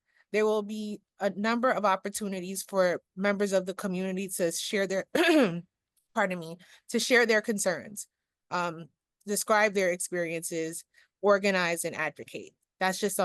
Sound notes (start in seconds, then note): 5.2 clearing throat